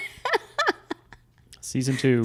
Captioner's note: laughs